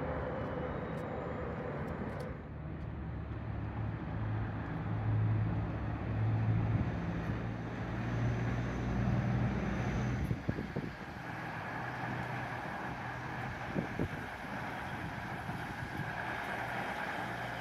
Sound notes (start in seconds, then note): 4.4 occasional light diesel rumble